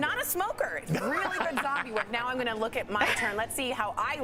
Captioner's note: laughter